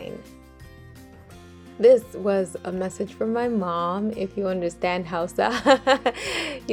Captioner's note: laughs